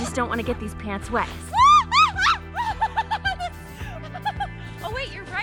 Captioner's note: screaming and giggling